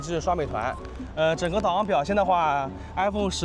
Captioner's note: walking